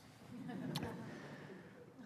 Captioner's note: laughter